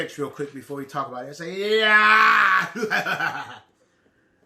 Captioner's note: laughs